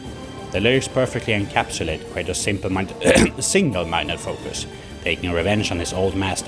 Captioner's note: cough